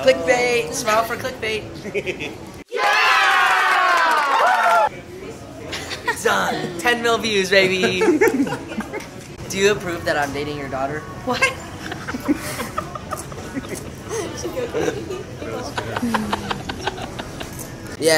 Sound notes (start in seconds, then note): 2.7 cheering; 7.6 laughing; 11.5 laughing